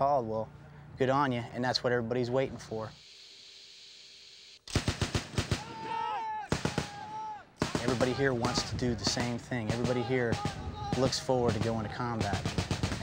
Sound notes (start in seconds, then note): 4.6 rapid gunfire; 5.5 men shouting